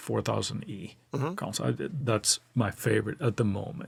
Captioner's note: laughs